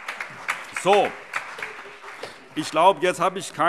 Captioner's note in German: Beifall